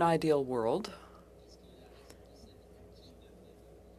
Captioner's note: speaking French